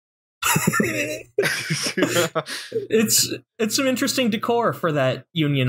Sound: laughter

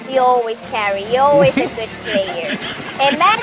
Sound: chuckles

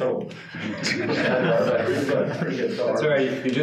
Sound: participants laughing

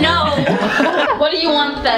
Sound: laughing

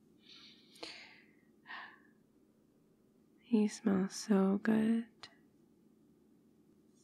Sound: inhales

